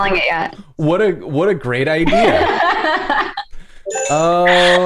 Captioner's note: laughter